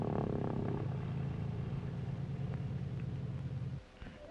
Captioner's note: engine purrs